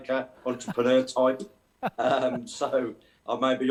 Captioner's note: laughter